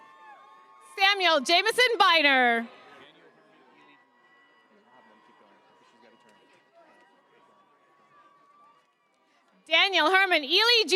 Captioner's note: cheers and applause